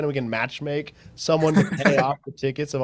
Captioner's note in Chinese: 笑声